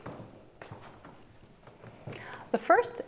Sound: footsteps

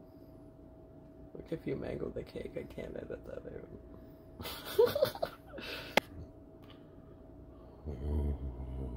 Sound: laughing

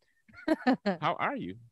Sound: laughs

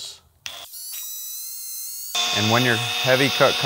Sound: machine buzzing

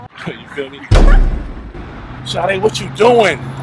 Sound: background chatter; explosion

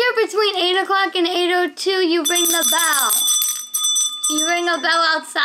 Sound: bell rings

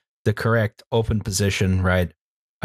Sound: none

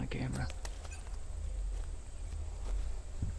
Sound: more beeps

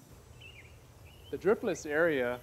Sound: birds chirping

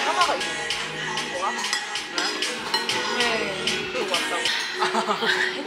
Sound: haha

